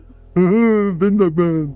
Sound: laughing

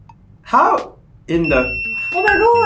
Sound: pager rings

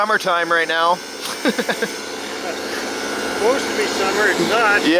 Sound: laughing

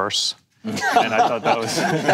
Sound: panel laughing

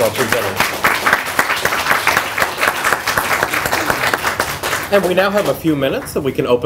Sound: clapping

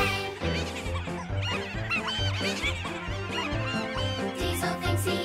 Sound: trucks laughing

